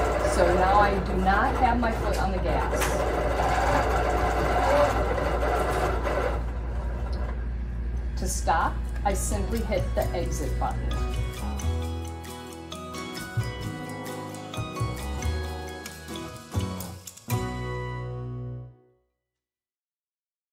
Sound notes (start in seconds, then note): 2.9 machine whirring; 12.4 bright music